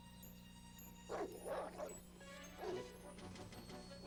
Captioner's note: dogs barking